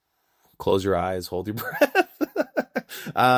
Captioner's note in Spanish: Riendo